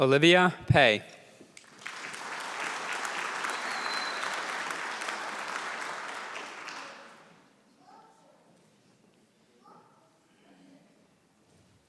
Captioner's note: applause